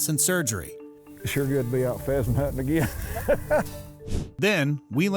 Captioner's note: laughs